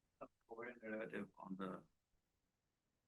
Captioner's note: stammers